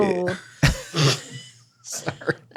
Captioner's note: everyone laughs